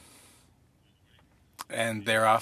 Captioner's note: speaking French